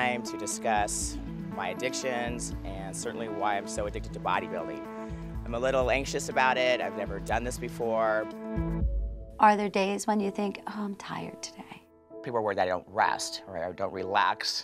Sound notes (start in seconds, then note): none